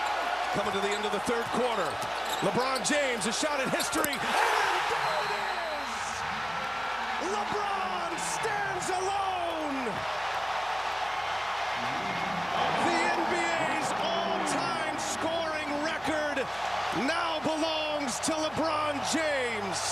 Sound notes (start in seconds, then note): 6.0 cheering and applause